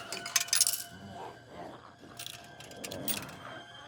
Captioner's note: quarter rattles